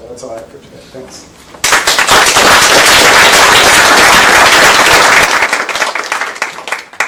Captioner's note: applause